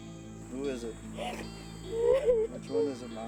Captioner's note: sobbing